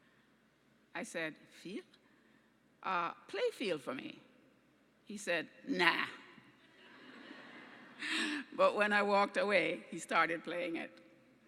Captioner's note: laughing